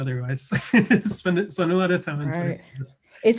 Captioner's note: laughs